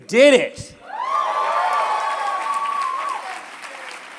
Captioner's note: cheering